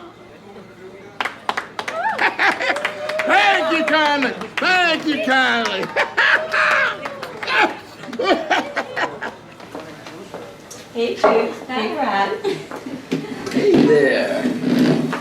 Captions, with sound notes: (crowd clapping) Thank you kindly! Thank you kindly! (Jake laughing) - Hey, Judy. Hi, Brad. - Hey there!